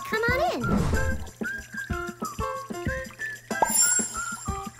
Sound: water trickling

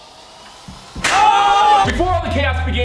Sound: loud pop; surprised shouting

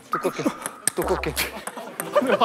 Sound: pow

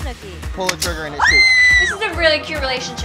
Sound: Snooki screams

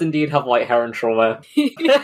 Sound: laughing

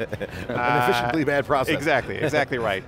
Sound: chuckles

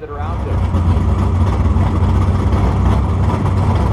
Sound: car engines

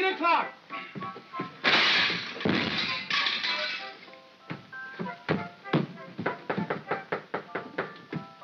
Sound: knock knock knock; crash

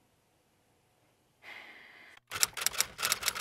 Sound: sighs with dread

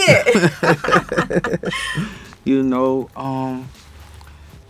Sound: both laughing

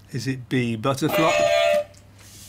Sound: beep beep

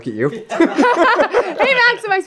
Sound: everyone laughs

